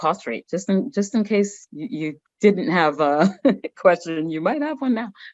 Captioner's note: chuckles